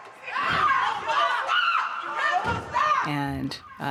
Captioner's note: yelling